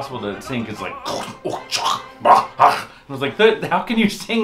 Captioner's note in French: bruits de bouche